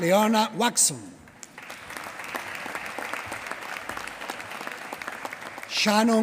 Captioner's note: applause